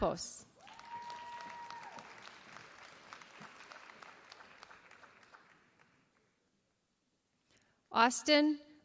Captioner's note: applause